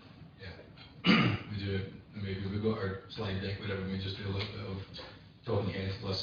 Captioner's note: audio distorts